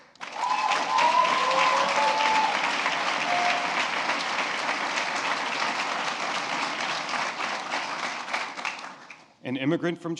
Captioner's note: applause